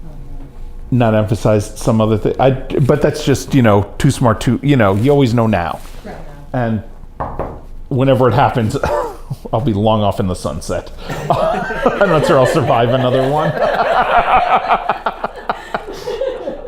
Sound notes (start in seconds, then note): 7.2 knocks on wood; 11.0 laughter